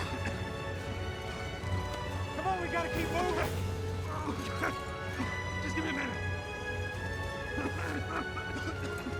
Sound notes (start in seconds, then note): 4.0 coughing; 7.4 coughing; 9.0 yelling